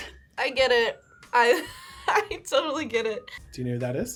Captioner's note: laughs